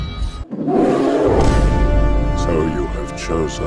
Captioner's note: King Kong roars in dominance